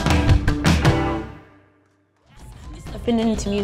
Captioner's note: applause